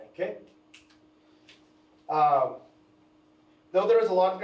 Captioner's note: pointer clicks